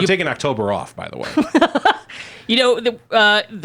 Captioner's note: laughing